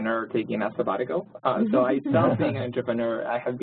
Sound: laugh

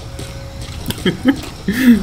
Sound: chuckle

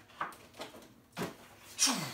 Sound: imitates rocket noise

